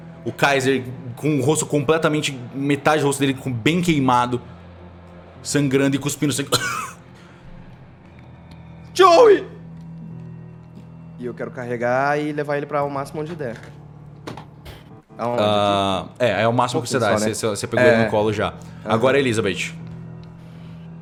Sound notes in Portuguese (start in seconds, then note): 6.4 tosse